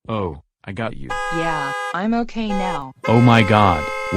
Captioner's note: car horns honking